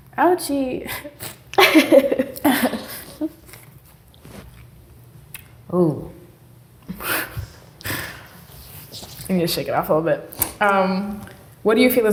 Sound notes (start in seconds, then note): 1.5 both laughing